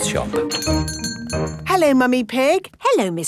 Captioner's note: doorbell chiming